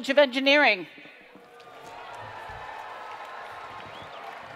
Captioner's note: cheering and Applause